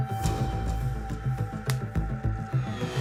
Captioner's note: pop